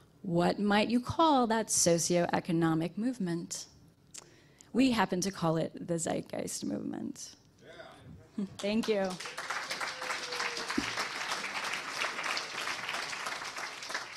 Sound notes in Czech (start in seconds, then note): 8.6 potlesk